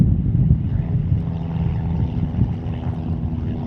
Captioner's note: airplane engine